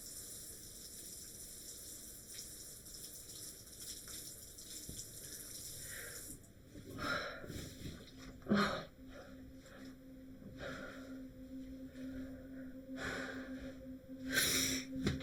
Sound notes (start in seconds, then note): 0.2 water splashing; 7.1 Lauren panting; 8.2 brooding music